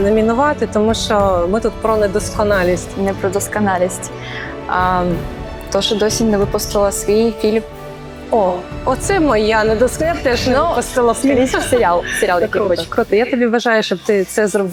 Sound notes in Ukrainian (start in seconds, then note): 10.9 сміх